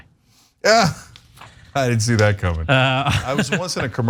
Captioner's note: laugh